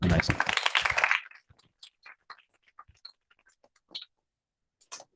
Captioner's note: applause